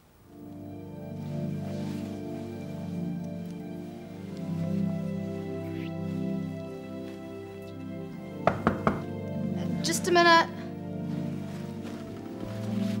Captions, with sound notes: (soft music) (knocking) - Just a minute.